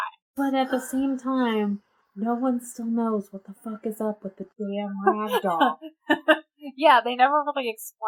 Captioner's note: laughs